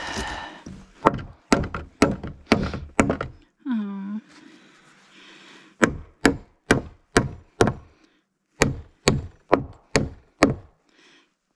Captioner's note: hammering, grunts, and sniffles